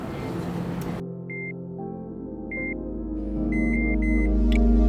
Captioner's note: monitors beep